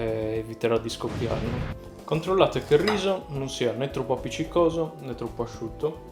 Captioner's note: explosion